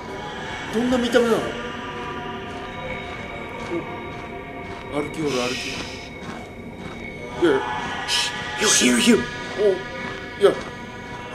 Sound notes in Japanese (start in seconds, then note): 2.4 足音